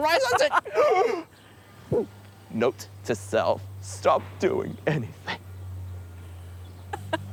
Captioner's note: gulps; laughs